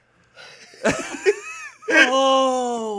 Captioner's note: group laughing